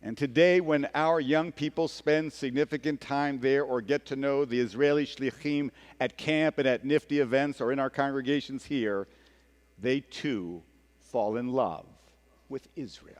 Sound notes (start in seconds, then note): 5.1 speaking hebrew